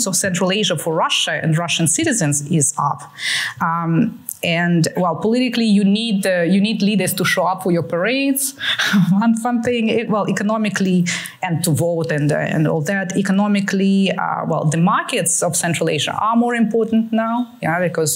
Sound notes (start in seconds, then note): 8.4 chuckles